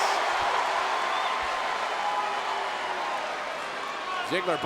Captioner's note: audience cheering